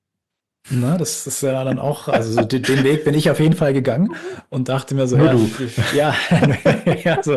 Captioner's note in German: gelächter